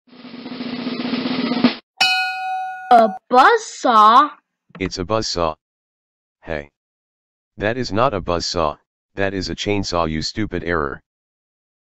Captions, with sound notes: (drum roll) (Ding) A buzzsaw? It's a buzzsaw. HEY! That is not a buzzsaw, that is a CHAINSAW you STUPID ERROR!